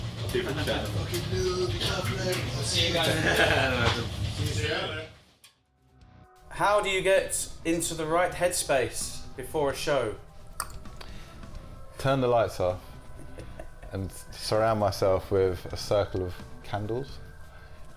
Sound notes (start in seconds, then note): 3.0 laughs; 10.6 clicks tongue; 13.0 laughs